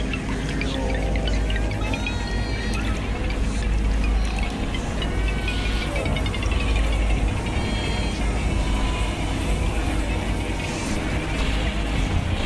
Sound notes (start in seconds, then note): 0.3 distorted voice; 1.8 male voice yelling; 5.7 distorted voice